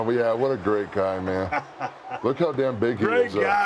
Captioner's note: laugh